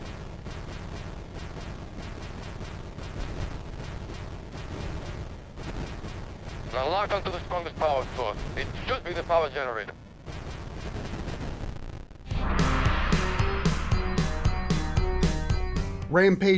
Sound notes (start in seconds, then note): 1.7 Return of the Jedi Arcade Audio